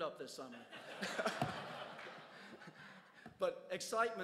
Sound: crowd laughs

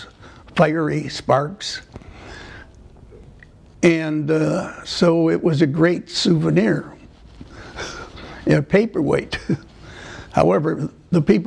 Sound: laughter

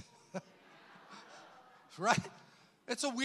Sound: congregation laughs

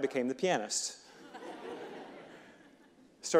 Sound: audience laughing

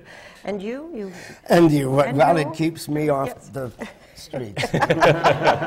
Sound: laughter

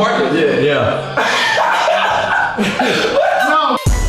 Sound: laughter

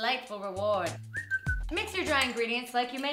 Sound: whistles

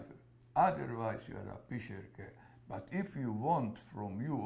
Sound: yiddish

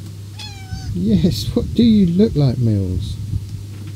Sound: miaow

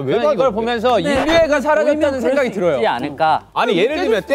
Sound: decibels rising with differing opinions

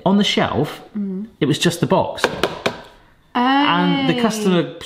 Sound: hand taps

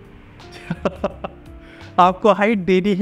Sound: laughs

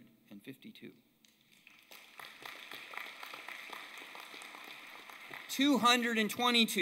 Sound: applause

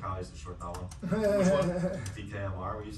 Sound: laughing

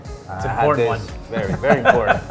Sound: laughs

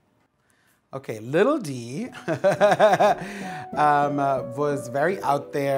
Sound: laughing

